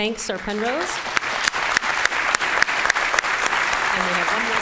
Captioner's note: applause